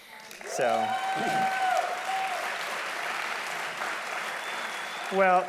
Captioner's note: audience applauding loudly